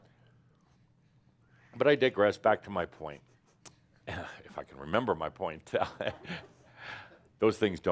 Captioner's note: Adamus chuckles